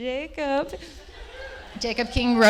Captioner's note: laughter